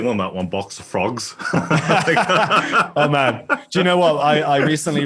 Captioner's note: laugh